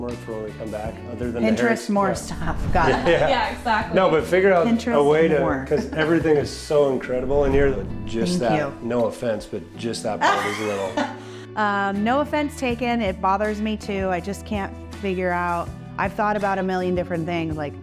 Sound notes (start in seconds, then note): 10.2 laughs